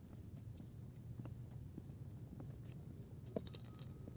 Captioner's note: quiet footsteps